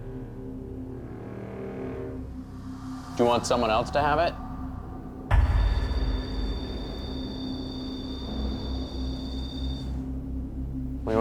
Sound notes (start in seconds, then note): 0.1 ominous music; 5.2 beeping; 8.1 ominous music